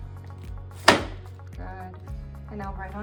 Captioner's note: headpiece thunking